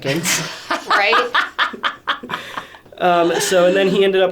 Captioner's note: laughing